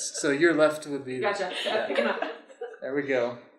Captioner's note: laughter